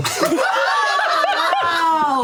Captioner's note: laughter